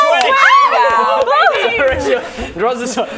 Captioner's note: cheering